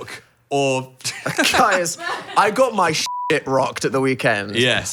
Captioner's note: beep